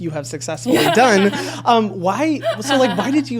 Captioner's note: laughs